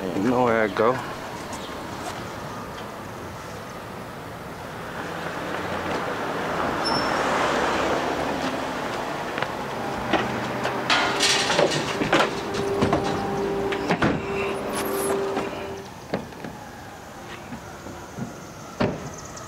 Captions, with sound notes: You know how that go. (trunk slams)